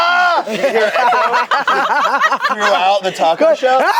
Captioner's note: group laughs